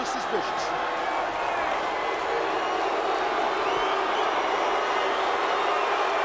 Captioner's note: crowd cheering and booing